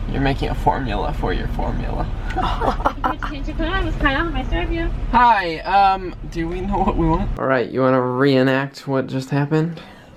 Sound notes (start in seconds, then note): 3.7 voice from box